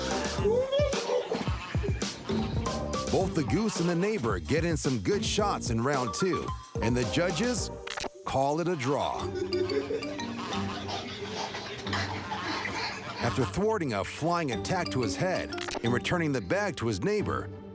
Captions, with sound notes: [laughter] Both the goose and the neighbor get in some good shots in round two. And the judges call it a draw. [goose honking] After thwarting a flying attack to his head and returning the bag to his neighbor,